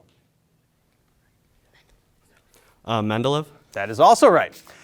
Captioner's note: group whispering